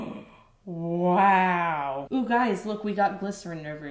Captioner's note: gasps